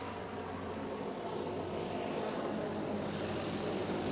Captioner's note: plane engines